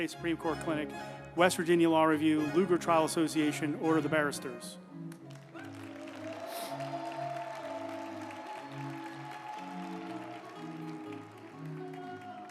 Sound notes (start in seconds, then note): 5.0 group applauding; 5.6 uplifting music